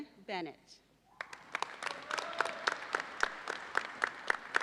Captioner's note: audience applauds